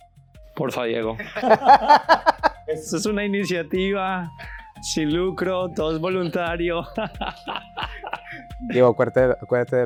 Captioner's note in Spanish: risas